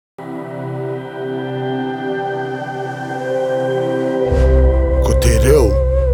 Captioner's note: various voices speaking te Reo